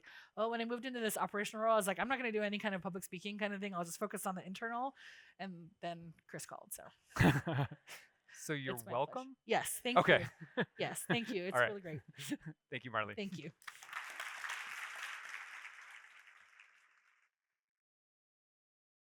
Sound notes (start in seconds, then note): 7.2 laughing; 13.5 audience applauding